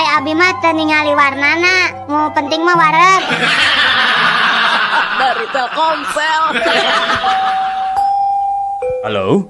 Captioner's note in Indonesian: tertawa